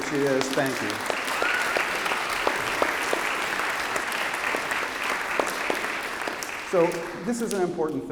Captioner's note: applause